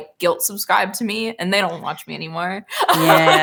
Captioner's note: laughs